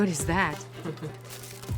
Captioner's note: laughs